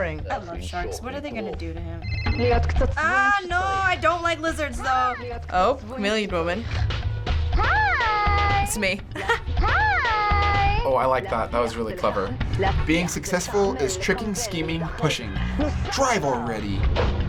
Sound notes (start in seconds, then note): 2.0 phone ringing; 9.0 chuckles